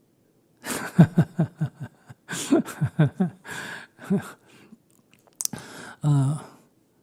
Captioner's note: Sunim laughs